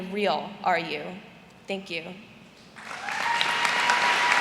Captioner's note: cheers and applause